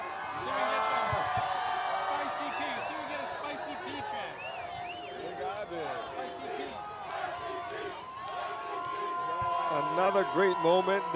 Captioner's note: cheering and Applause